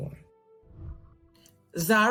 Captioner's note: whooshing